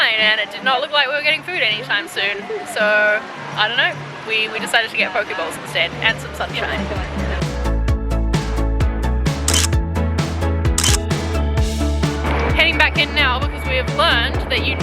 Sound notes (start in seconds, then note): 7.6 upbeat music; 10.8 camera clicks